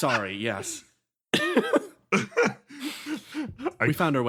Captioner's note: laughs